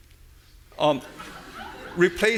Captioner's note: audience laughing